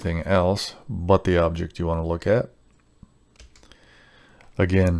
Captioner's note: keyboard clacking